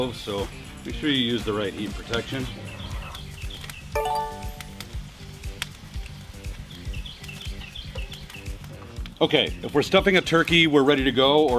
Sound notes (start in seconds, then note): 3.3 beeping sound; 3.3 birds chirping